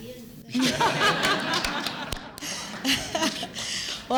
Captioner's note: laughter